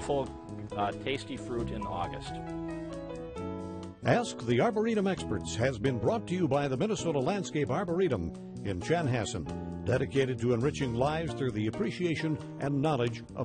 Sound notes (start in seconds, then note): 5.5 voiceover